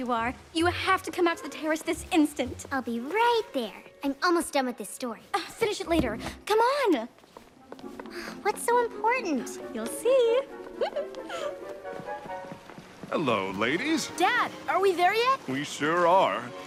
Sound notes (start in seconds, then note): 10.7 giggles